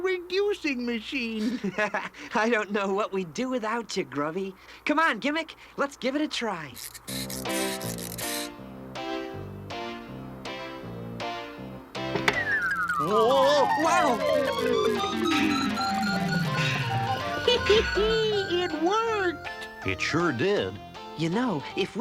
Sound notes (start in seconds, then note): 1.4 chuckles; 6.7 cranking; 12.3 beeping; 15.9 Gimmick chuckles